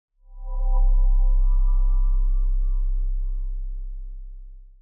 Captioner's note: resonant chime